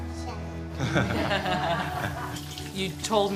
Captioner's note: all laughing